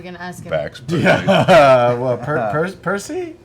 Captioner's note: laughs